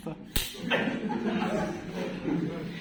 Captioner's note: laughter